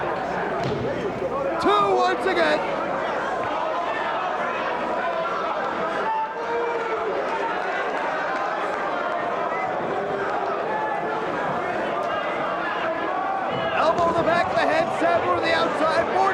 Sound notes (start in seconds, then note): 6.1 spectator chanting "Sabu!"; 7.5 spectators cheering and applauding